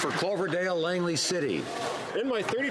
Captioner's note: some Applause